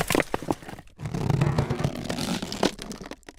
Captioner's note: creak